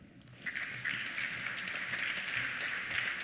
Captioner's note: applause